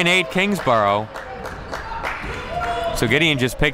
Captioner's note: clapping